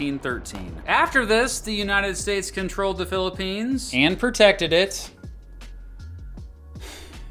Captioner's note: sighs